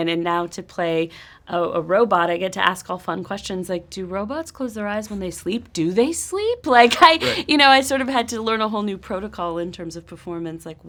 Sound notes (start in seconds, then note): 6.8 laughs